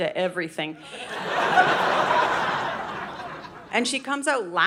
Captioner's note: audience laughing